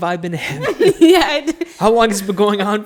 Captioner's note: laughs